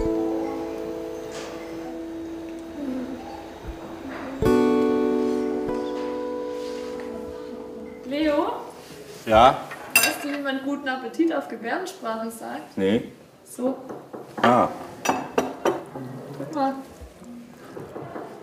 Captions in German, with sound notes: Leo? - Ja? Weißt du, wie man "Guten Appetit" auf Gebärdensprache sagt? - Nee. So. (Klopfen) Ah! (Klopfen) Super.